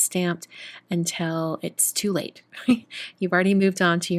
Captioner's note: giggles